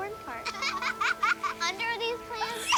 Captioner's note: laughter